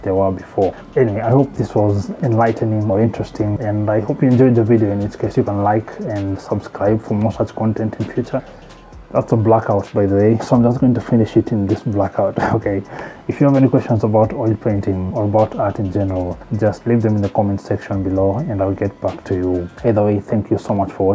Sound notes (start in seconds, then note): 12.3 chuckles